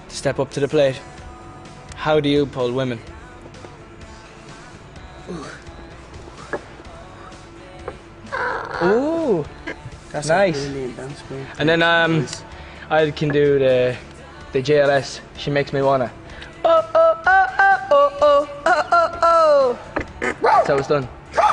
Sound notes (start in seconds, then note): 1.1 cracks knuckles; 8.5 bird noise; 20.2 makes barking noises; 21.3 barks